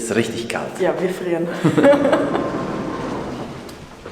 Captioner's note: laughter